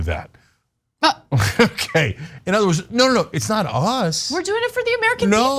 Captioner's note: laugh